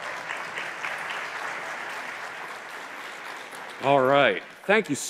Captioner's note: applause